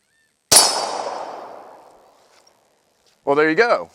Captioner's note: gunshot